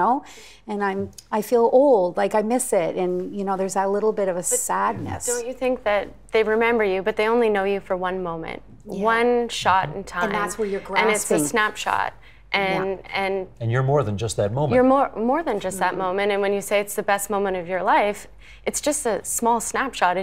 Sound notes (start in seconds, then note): 4.5 laughing